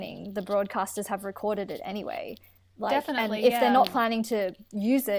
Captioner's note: interjections of agreement